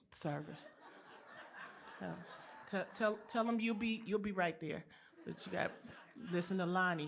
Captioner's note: laughter